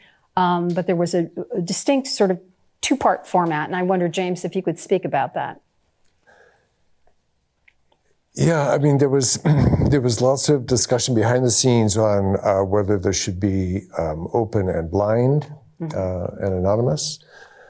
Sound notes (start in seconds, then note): 9.4 clears throat